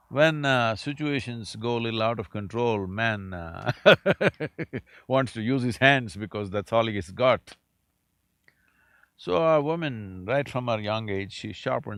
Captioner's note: laughs